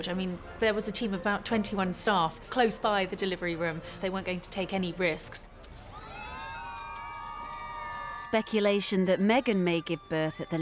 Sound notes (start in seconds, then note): 5.7 crowd cheering